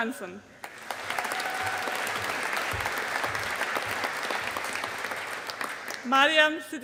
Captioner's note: audience applauding